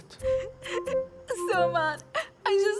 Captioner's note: sobbing